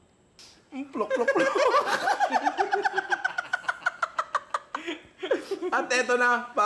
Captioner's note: laughter